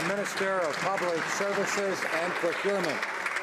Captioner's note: some Applause